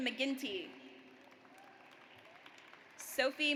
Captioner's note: audience applauds